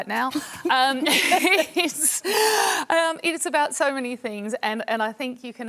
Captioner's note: laughs